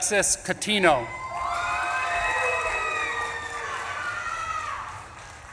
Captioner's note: audience claps and cheers